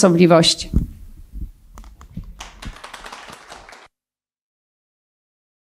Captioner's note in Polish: oklaski